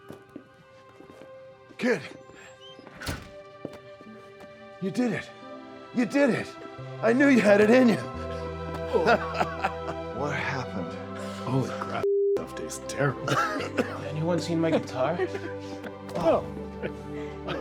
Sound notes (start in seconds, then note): 8.7 laughs; 13.1 Darlus coughing